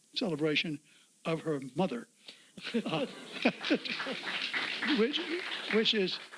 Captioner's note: audience applauds